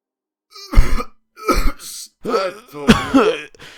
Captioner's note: cough cough